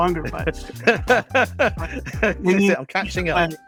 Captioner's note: laughs